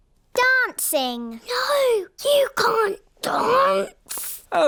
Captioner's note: whispers